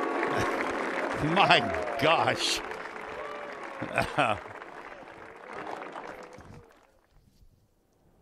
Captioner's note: applause